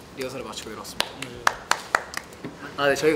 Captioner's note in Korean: 박수